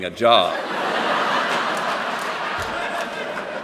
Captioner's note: laughter